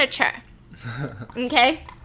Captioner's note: laughter